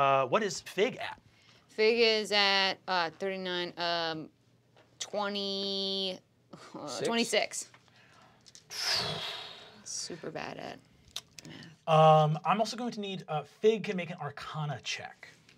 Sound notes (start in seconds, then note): 8.7 sighs